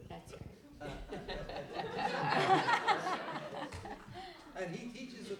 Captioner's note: laughter